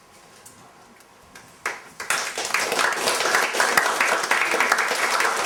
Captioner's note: applause